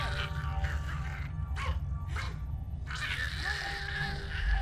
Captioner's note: Giree snarling; tense pensive music